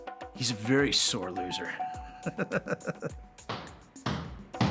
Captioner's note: laughs